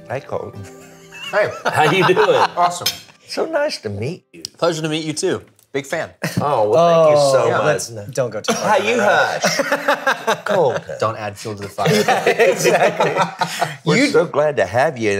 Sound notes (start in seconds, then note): 1.1 laughing; 8.5 laughing